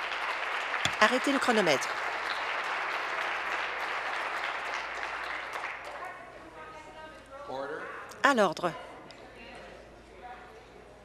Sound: applause

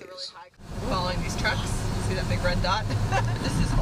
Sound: laughs

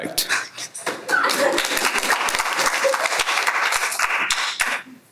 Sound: applause

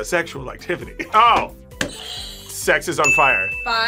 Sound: buzzer rings

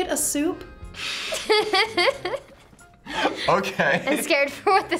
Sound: both laugh

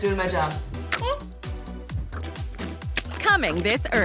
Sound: squishing, glopping

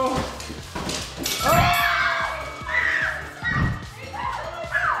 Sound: screaming

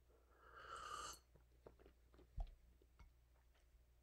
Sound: instructor sips

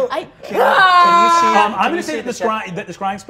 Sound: yells

